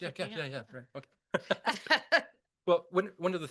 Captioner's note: laughter